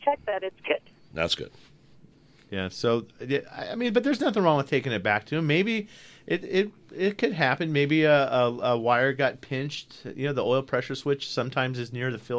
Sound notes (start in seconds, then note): none